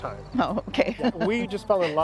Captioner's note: ^laughter^